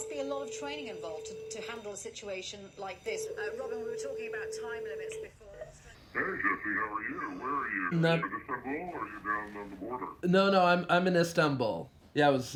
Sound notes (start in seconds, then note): 2.3 line ringing; 2.3 man speaking English, distorted